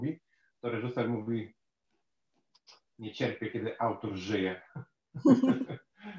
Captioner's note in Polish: śmiech